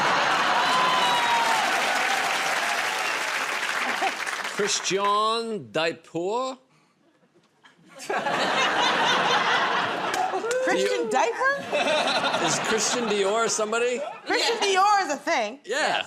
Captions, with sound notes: [ Laughter ] [ Cheers and applause ] -Christian Dia-por. [ Laughter ] -Christian Diaper? -Is Christian Dior somebody -Christian Dior is a thing. -Yeah.